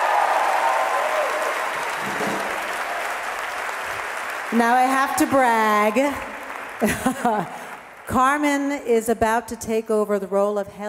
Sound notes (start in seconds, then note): 0.0 audience applauding; 7.0 laughs